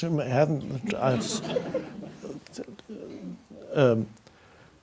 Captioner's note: audience laughs